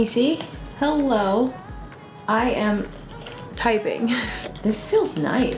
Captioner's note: laughs